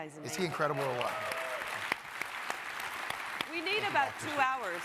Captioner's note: crowd applauding